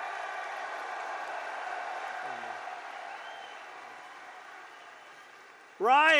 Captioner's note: applause